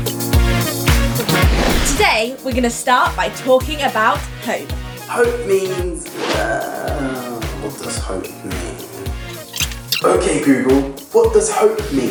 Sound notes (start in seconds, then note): 8.9 rewind sound effect